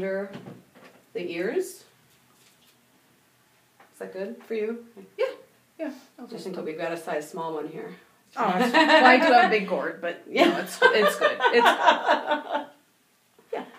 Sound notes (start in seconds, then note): 10.5 laughing